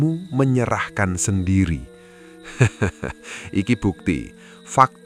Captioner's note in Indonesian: tertawa